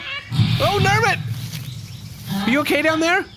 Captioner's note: shouting